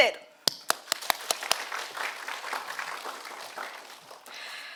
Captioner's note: audience applauding